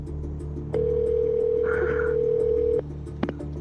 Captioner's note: phone line ringing